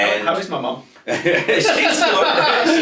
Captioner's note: both laughing